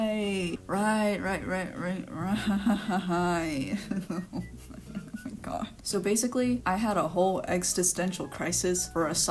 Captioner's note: laughing and then crying